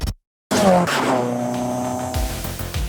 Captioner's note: engine roaring